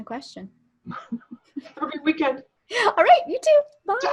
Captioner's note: laughs